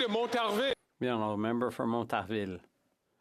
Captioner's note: some Applause